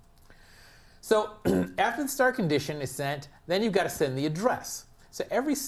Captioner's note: cough